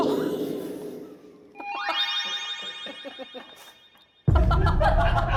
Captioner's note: original sound effect